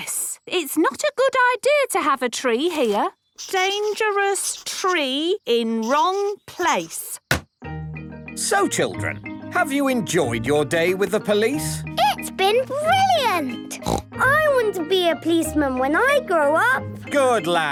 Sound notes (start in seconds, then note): 13.7 snort